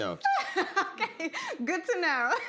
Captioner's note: laughing